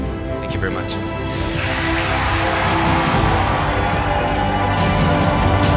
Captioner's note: cheers and applause